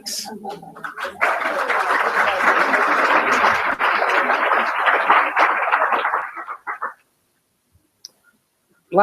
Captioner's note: applause